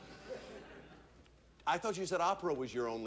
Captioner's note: audience laughing